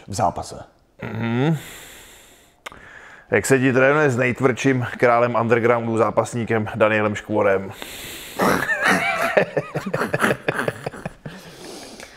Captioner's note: laugh